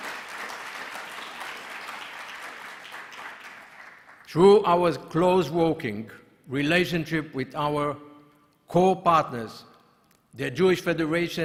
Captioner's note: applause